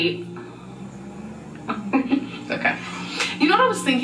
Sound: laughing

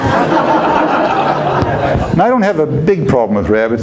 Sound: audience laughs

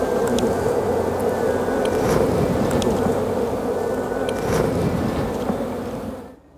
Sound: bees buzzing

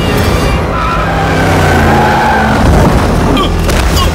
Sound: tires screeching

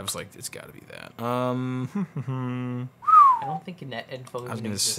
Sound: hums and whistles

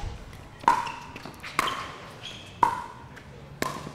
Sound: ball bouncing

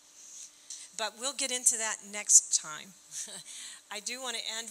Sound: chuckling

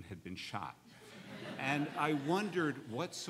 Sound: laughing

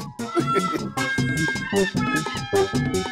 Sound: laughing

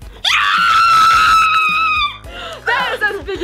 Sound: screaming

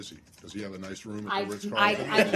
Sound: laughter

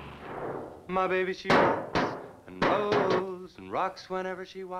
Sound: hammer thudding

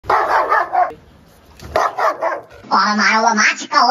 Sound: Roxy is barking vigorously

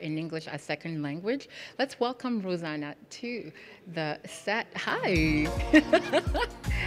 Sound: laughs

